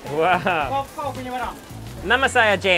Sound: chef speaks in a foreign language; speaks in foreign language

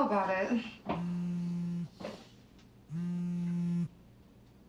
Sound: phone vibrating

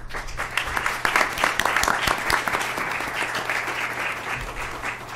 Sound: applause

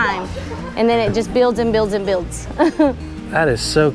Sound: chuckles

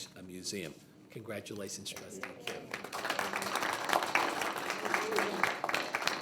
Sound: group clapping

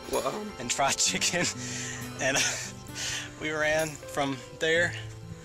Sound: laughs

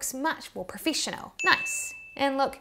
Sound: bell dings

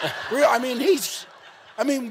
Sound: laughing continues

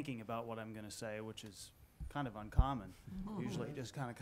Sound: some chuckling

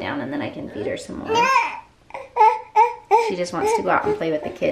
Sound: baby grunting and cooing

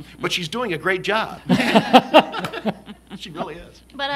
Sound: laughter

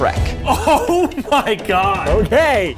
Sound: laughing

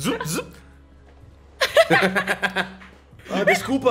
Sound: laughs

